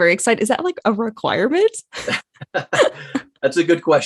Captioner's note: both laugh